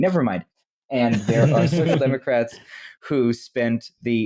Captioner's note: laughter